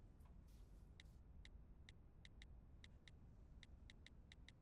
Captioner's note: clicking